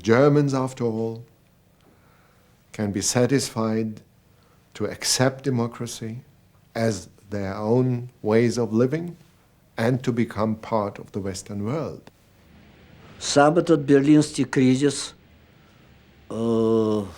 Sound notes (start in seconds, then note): 13.1 speaking russian